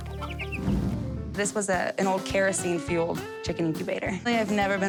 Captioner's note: laughs; chicken squawks